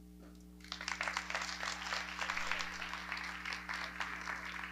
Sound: audience clapping

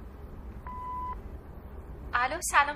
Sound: message beep

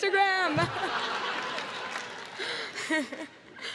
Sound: crowd laughs

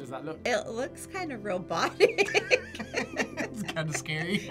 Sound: both laugh

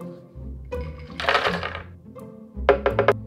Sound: nuts dropping

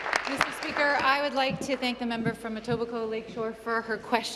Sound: applause

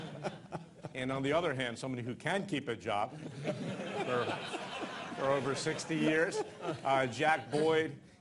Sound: laughter

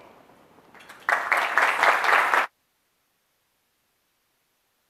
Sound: applause

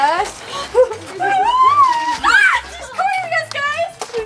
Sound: excited screaming

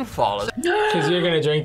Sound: gasps

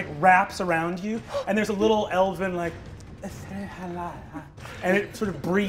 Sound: breathy Elvish

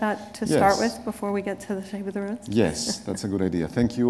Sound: chuckle

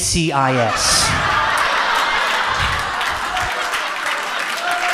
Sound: audience cheers

